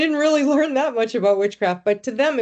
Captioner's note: chuckling